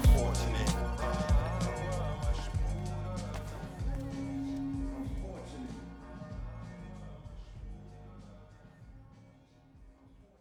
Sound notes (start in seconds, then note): 3.1 shoes softly clattering